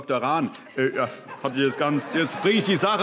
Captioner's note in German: Heiterkeit